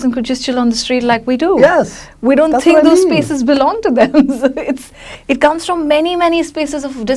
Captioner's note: laughs